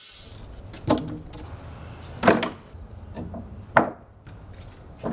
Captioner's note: wood clattering